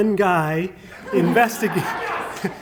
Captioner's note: laughter